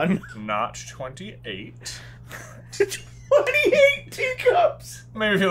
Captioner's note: giggling